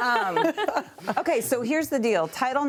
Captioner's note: laughter